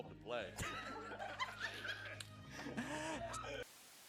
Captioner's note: cackles